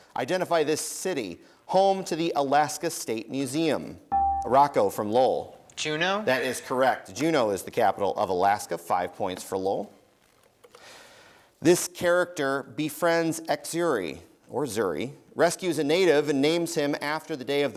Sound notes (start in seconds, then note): 4.1 dinging